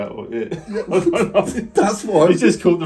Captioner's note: laughs